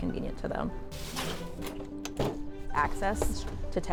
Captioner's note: signage clattering